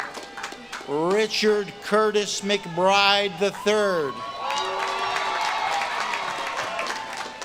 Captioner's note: audience claps and cheers